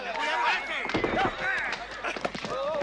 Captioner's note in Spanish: gritan